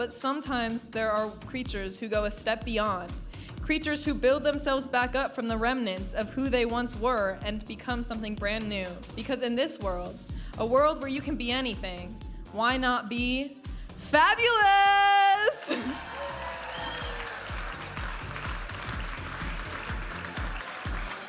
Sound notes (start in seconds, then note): 15.5 audience applauding and cheering; 18.4 vibrant music